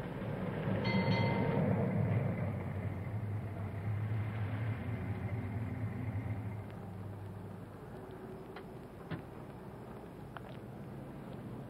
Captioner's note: bell dings